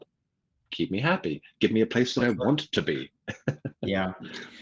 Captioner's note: laughs